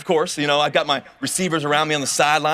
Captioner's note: none